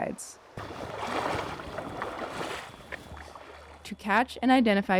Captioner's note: water burbling